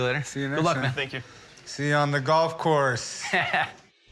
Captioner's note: laughs